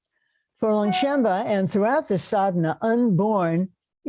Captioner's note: non-english